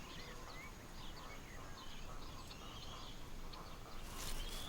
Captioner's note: birds chirping